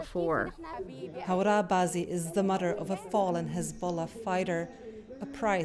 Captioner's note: voice-over